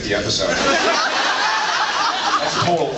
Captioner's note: laughs